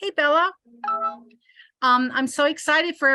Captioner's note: software sound